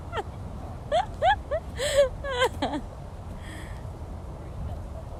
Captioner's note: laughter